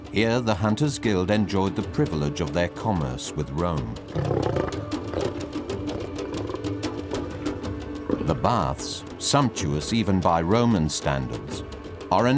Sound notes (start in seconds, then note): 4.0 lion roaring